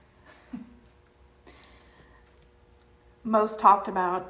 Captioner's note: chuckles